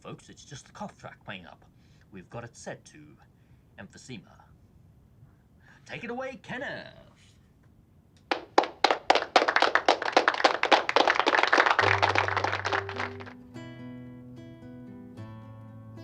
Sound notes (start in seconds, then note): 8.2 applause playing; 11.8 calm guitar music